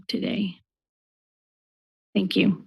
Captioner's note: pause